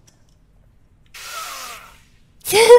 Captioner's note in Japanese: 騎士が回転ノコギリに斬られる音